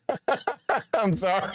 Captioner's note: laughing